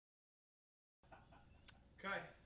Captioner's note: laughs